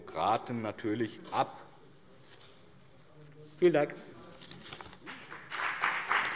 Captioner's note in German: Beifall BÜNDNIS 90/DIE GRÜNEN und CDU